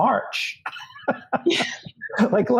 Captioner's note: laughs